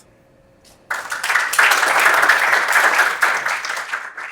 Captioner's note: applause